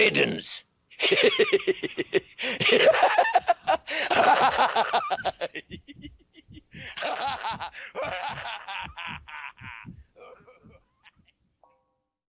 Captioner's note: The Gatekeeper shares one final laugh for your failure